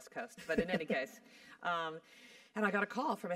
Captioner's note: laugh